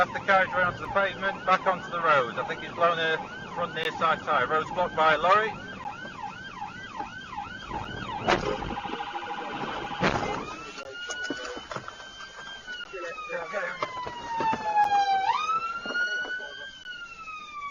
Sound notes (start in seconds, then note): 9.3 cars impact; 9.8 cars impact into truck; 14.6 police car siren